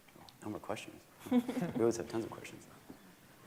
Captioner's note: members laughing